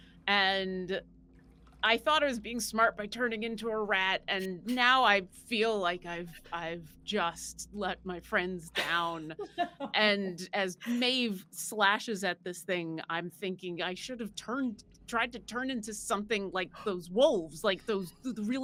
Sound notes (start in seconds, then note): 8.7 laughing